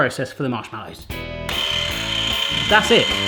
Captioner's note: mixer running